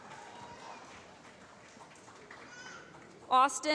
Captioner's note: applause